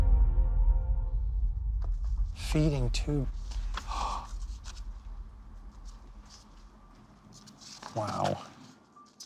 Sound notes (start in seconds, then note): 6.7 gasps